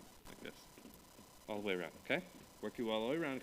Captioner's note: foot stamping